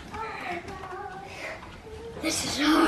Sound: heavy breathing

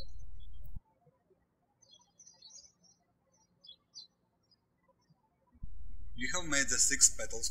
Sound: birds chirping

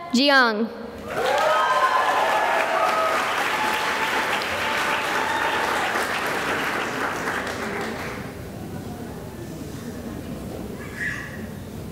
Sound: cheering and applause

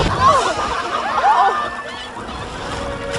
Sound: all gasping

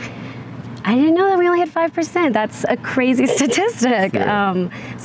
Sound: laughs

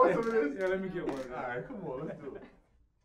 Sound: laughing

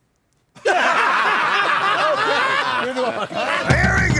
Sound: breaks in laughter

